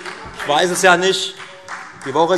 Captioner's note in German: Beifall Freie Demokraten